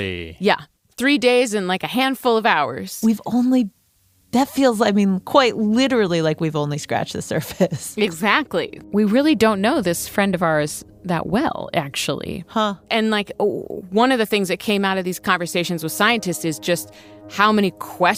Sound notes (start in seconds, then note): 7.9 laughs